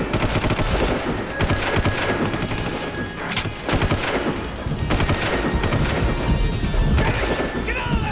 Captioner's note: gunshot